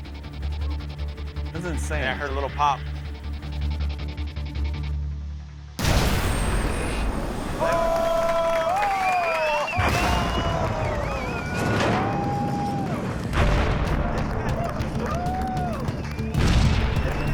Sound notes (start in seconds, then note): 5.8 loud burst; 7.4 cheers and applause; 9.8 booming; 12.7 booming, cheering continues